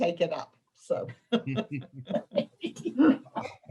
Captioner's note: laughter